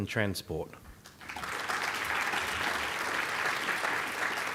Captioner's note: applause